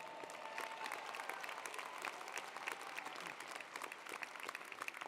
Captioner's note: audience applauding